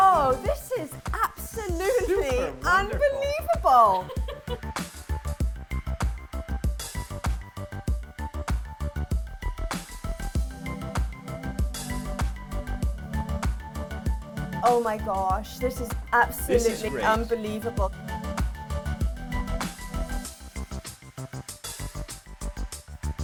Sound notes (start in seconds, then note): 4.3 laughs; 5.8 upbeat pulsating music; 18.9 upbeat pulsating music continues